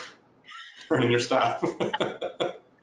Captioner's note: laughing